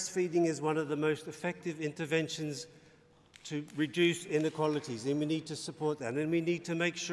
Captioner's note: applause